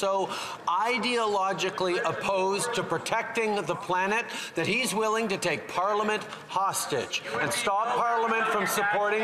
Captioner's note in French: voix de l'interprète